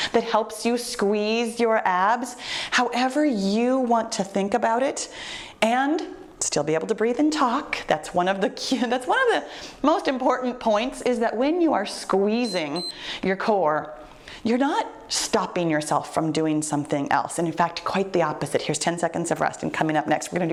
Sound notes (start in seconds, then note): 12.4 timer beeps